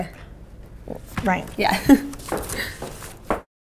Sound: chuckles

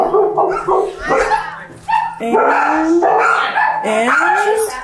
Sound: dogs bark; mom drowned out by dogs barking

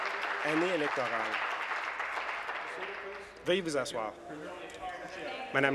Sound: applause

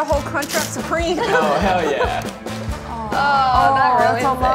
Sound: cast laughs

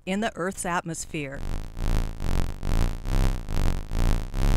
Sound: buzzing

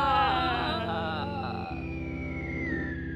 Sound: screaming

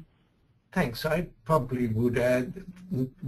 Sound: voiceover

